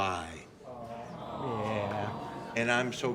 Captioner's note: audience sighs